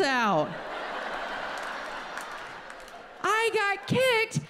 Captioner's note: audience laughs